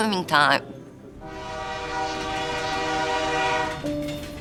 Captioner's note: train whistle